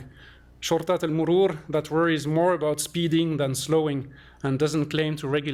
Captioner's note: non-english